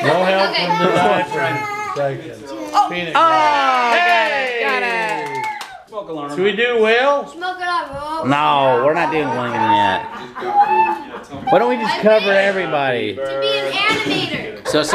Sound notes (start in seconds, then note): 3.1 people cheering and clapping